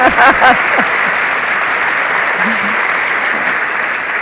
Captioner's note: audience applauds